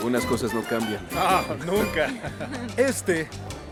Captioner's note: Lewis y Esperanza ríen